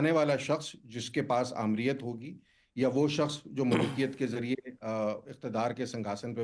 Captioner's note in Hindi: गला साफ़ करने की आवाज़